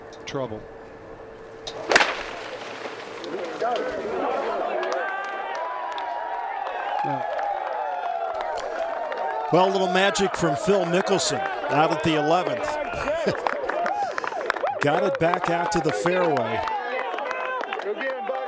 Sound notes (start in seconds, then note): 11.6 cheers and applause